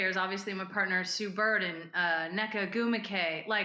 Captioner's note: none